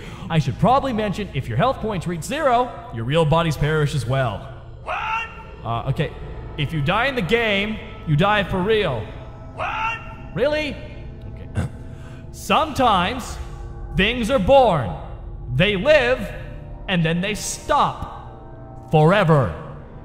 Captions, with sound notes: I should probably mention if your health points reach zero, your real bodies perish as well. What? Ah, okay. If you die in the game, you die for real. What? Really? Okay. [clears throat] Sometimes, things are born. They live, and then they stop. Forever.